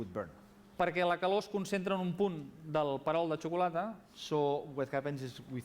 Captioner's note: non-english speech